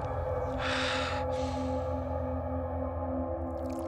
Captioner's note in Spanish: exhala y jadea nervioso